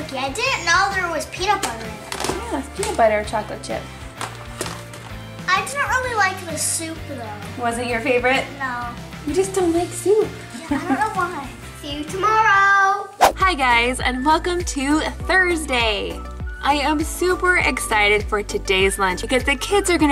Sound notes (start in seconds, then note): 10.6 laughs